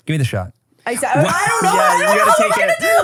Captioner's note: everybody laughs